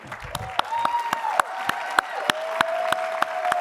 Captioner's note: applause